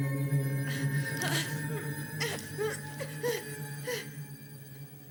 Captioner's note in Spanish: Ofegante